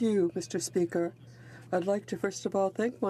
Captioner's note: speaking French